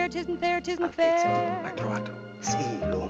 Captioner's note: speaking Italian